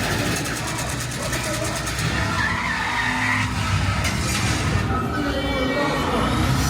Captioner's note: gun firing; tires screeching